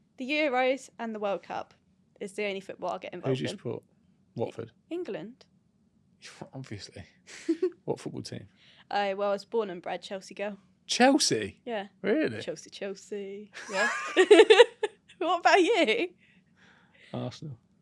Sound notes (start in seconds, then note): 7.3 chuckles; 13.6 both laugh